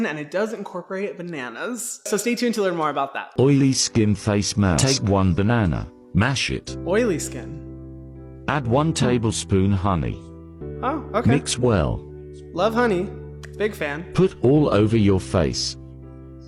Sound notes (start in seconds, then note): 3.5 robotic Voice; 7.6 soft piano music; 8.6 robotic Voice; 14.3 robotic Voice